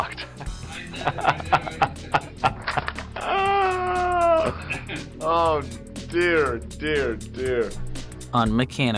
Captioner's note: laughing